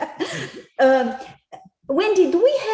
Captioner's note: laughter